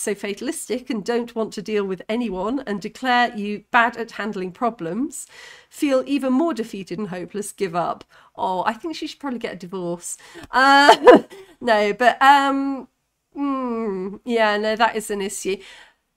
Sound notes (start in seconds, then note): 10.8 laughing